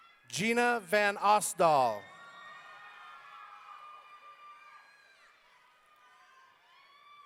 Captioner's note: audience cheering